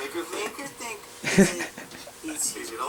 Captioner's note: Arnold laughs